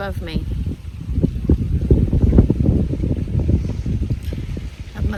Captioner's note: wind continues to blow